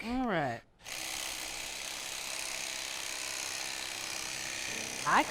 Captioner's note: electric knife whirs